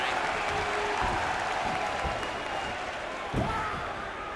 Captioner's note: audience shouting